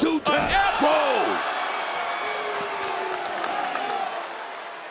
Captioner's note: audience cheering